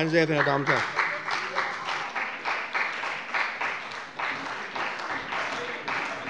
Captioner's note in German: Beifall bei dem BÜNDNIS 90/DIE GRÜNEN und der CDU